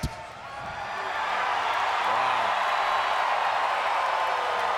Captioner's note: audience cheering